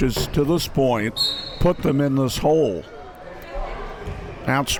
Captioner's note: whistle blows